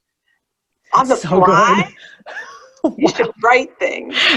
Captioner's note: laughs